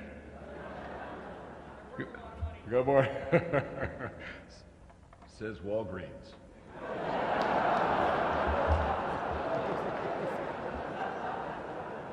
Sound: laughter

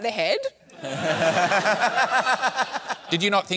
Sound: laughter

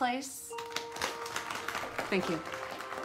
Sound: claps continue; everyone claps

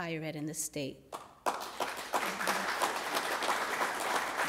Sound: applause

